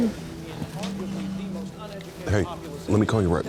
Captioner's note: phone vibrating